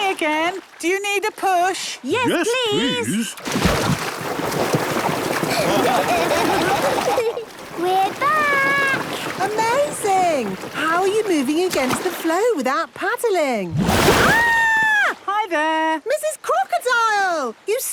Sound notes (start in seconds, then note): 5.4 laughing